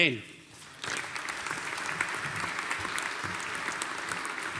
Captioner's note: audience applauding